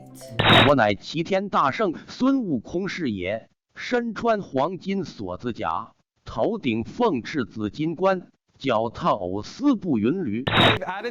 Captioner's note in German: nicht-englische rede